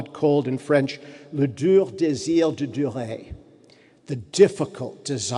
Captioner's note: speaking in French